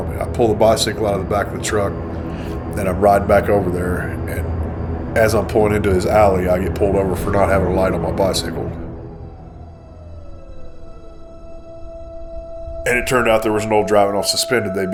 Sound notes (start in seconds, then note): 9.3 police sirens wailing